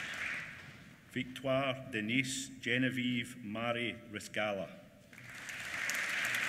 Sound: applause

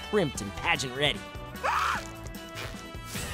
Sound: screaming

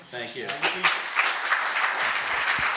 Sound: applause

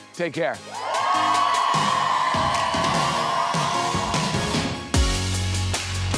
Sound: students cheer; upbeat music

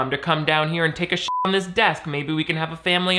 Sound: beep

